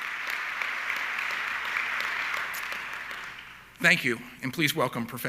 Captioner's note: audience clapping continues